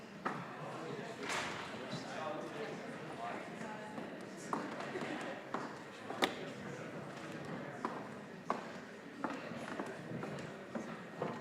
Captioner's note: general chatter